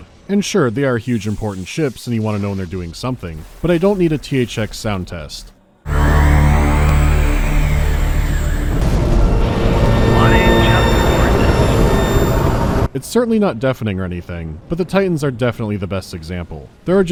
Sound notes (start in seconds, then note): 5.8 loud, resonant electronic hum